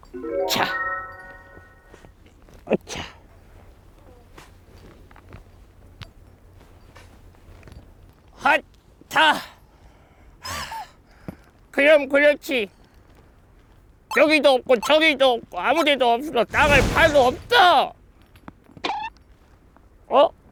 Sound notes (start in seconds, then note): 18.7 hesitates